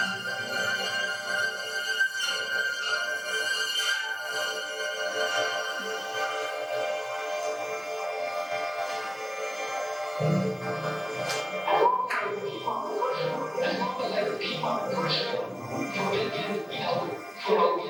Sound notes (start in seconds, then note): none